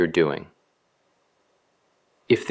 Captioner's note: pause